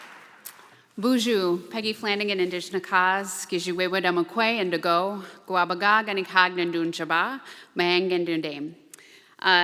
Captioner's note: Speaking Ojibwe language